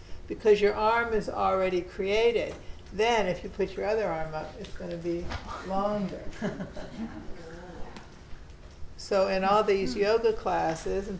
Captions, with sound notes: Because your arm is already created. Then, if you put your other arm up, it's gonna be longer. (students laughing) - So, in all these yoga classes